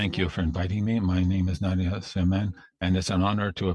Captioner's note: speaking French